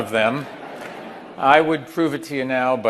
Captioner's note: audience laughing